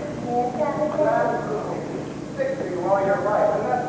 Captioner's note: none